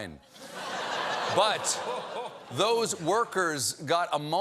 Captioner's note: laughter